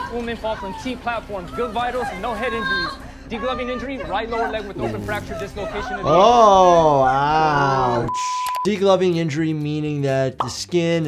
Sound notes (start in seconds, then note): 8.0 beep